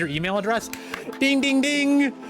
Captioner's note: clapping